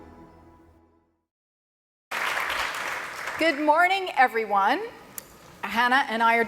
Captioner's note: applause